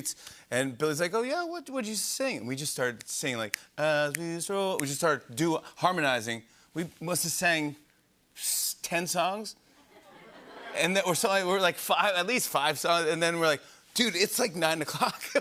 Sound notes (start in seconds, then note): 9.7 laughter